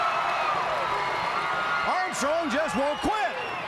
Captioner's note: crowd cheering